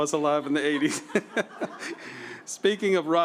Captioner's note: laughter